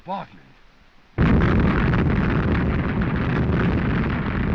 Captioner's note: continuous explosions